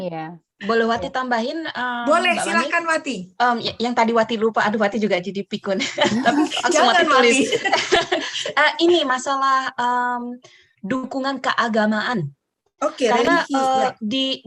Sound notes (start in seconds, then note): 2.9 laugh